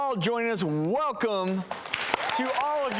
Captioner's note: audience applause